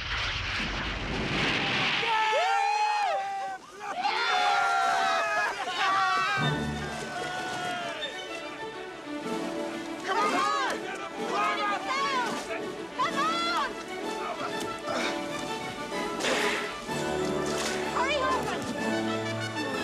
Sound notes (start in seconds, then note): 2.0 cheering; 3.6 laughing